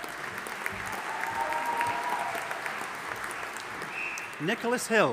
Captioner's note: audience applauding